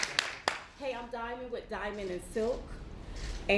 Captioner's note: applause